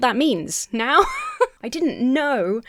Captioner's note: Emma laughs